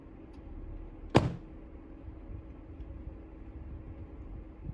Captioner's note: car door slams